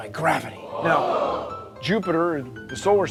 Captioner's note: impressed exclamations